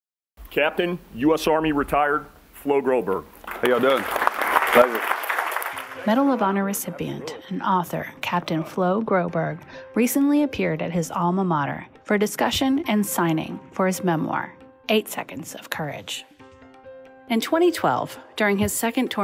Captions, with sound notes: >> Captain U.S. Army Retired Flo Groberg. >> How y'all doing? [Clapping] Pleasure. >> Medal of Honor Recipient and author, Captain Flo Groberg, recently appeared at his alma mater, University of Maryland University College for a discussion and signing for his memoir, 8 Seconds of Courage.